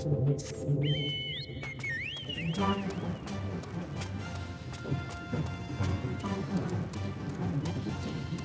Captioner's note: whistling